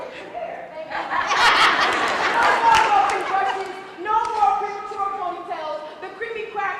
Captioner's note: laugh